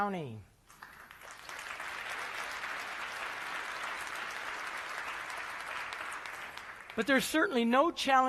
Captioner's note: applause